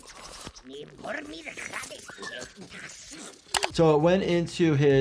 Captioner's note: robot continues to angrily ramble